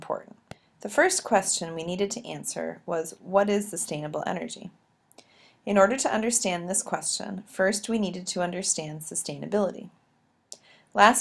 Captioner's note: click